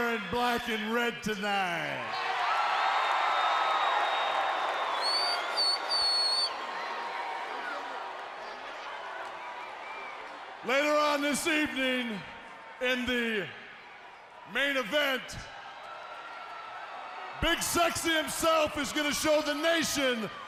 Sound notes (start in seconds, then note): 3.7 crowd cheering; 5.9 crowd chatter